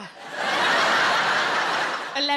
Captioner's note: audience laughing